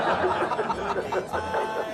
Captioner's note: crowd laughs